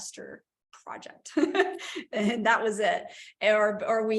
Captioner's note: laughter